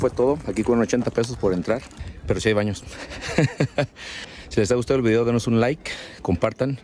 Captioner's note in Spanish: risas